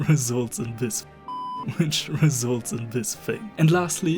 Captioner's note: peep